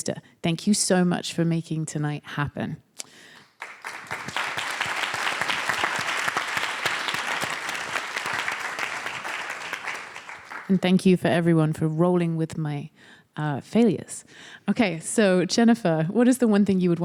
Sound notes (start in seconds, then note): 3.4 applause